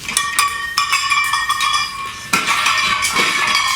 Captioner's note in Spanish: latas de fondo